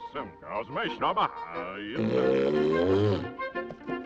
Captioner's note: bellowing